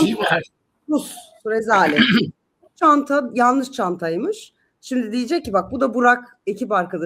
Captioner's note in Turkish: boğazını temizler